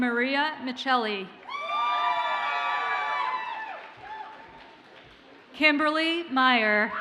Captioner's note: audience cheers and applauds